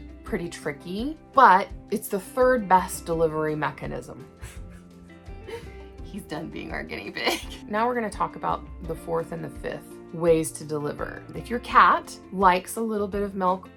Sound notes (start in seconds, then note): 4.4 laughing